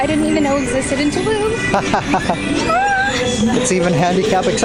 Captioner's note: laughs